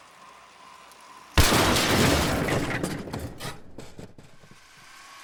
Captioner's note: crash